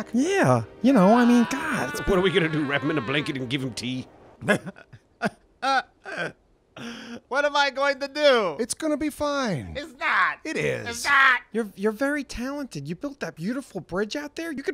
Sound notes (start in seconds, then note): 5.6 'Sobbing'